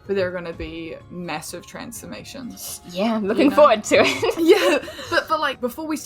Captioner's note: laughs